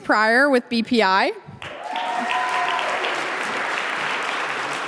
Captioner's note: audience applauding